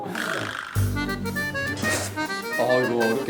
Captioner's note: slurp